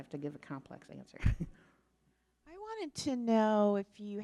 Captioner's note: laughs